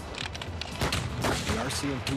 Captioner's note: guns firing; voiceover